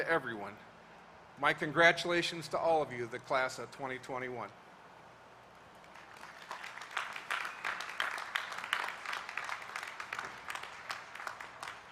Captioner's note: applause